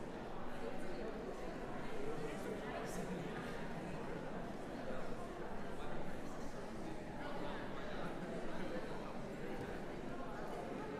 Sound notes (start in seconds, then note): 5.2 background conversations